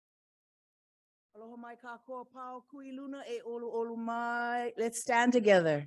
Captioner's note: speaking in ‘Ōlelo Hawai‘i